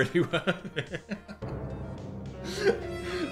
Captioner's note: dramatic music; laughs